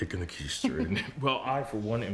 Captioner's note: Rachel chuckles